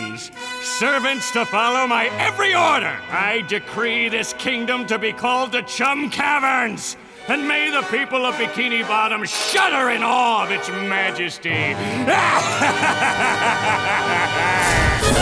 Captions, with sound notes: servants to follow my every order! I decree this kingdom to be called the Chum Caverns! And may the people of Bikini Bottom shudder in awe of its Majesty! [laughing]